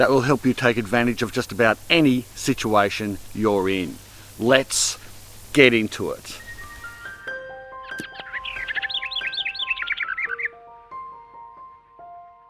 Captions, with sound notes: That will help you take advantage of just about any situation you're in. Let's get into it. (lighthearted music) (birds chirp)